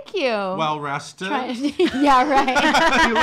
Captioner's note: laughing